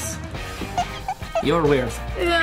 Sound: head squeaking

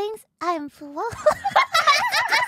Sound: giggles

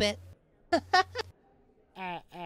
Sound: GOHAN chuckles nervously

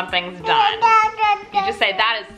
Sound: cooing

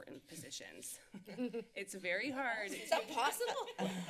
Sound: laughter

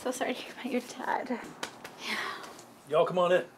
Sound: Deb sighs

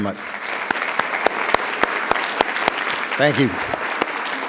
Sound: attendees applauding

